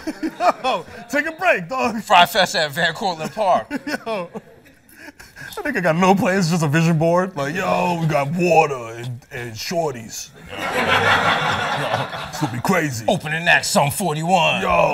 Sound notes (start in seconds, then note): 3.2 laughs; 10.4 laughter